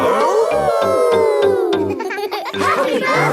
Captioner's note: howling; all howling